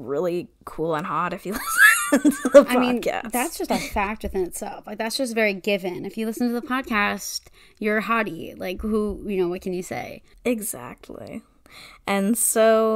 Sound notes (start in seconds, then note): 3.6 wheeze laughs